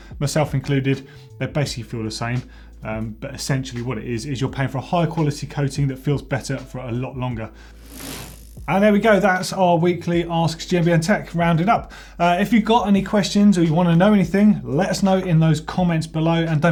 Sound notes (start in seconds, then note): 7.8 bicycle gear whirs